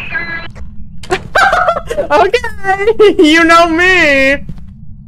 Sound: over Radio; laughs

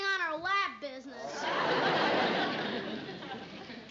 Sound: laughter

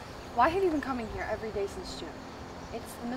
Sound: none

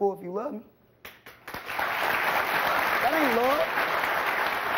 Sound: audience applauding

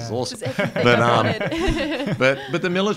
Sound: laughs

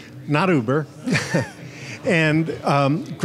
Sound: laughs

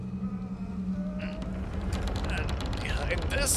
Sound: struggling with door

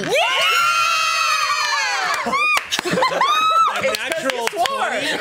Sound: group cheers

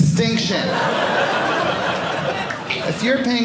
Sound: audience laughing

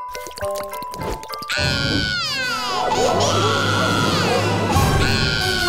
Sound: crying

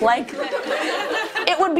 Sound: audience laughing

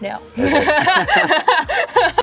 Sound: laughing

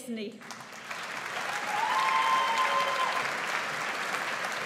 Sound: audience applauds

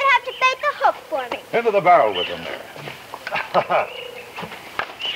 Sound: laughs

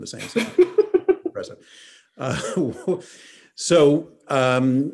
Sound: chuckles

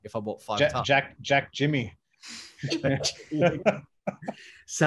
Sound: laughing

